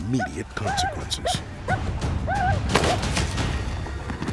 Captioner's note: gunshot